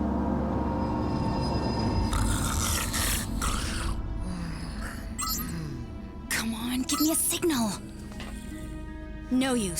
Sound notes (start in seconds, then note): 2.1 snoring; 6.2 digital beeping